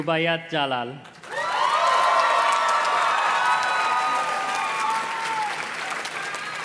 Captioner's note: audience cheers and claps